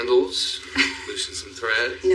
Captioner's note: Peteter chuckles; Jennifer laugughs